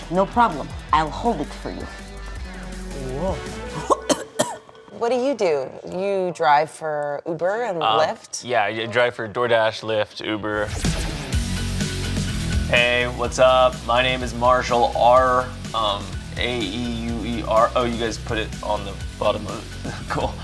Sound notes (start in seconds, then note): 3.6 coughing; 10.8 exciting rhythmic music; 19.5 laughing